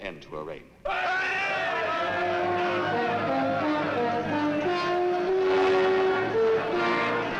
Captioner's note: men shouting and clamoring; grand orchestral music